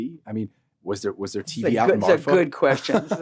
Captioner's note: laughs